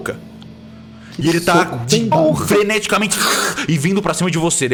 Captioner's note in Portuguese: rosnado